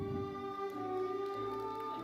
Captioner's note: audience applauding; audience member cheering